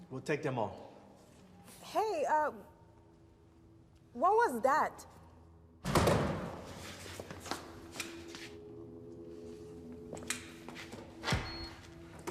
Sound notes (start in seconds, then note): 6.0 loud banging; 8.5 tense music